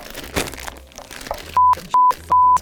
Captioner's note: bag rustles; quietly